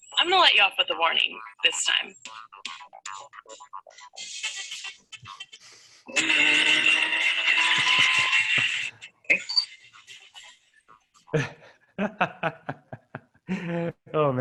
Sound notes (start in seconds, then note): 2.4 groovy music; 6.3 engine revving; 12.0 laughs